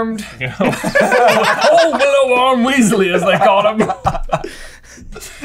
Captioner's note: guffawing; laughter